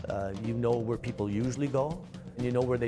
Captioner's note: voiceover